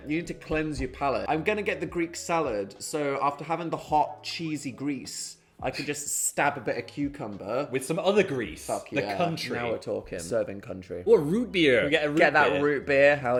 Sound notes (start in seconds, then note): 5.7 chuckling